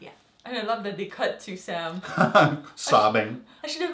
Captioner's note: laugh